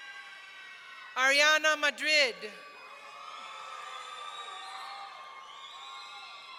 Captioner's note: audience cheering